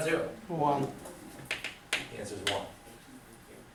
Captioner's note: voiceover